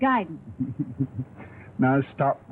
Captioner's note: laughs